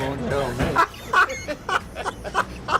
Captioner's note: laughs